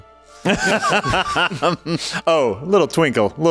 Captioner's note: laughs